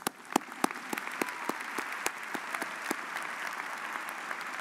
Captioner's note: audience applauds